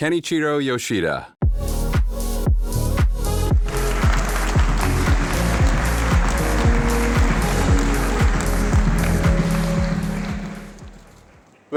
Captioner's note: applause